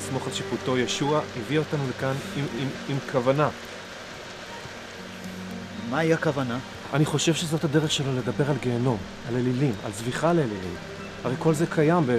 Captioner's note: speaking foreign language